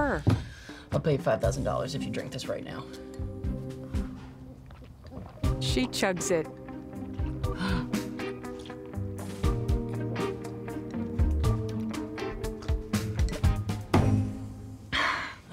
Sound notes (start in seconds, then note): 4.0 gulping; 7.4 gasps